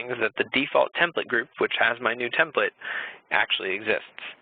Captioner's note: none